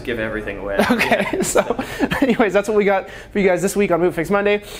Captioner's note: laughs